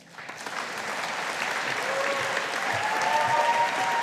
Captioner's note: audience applauding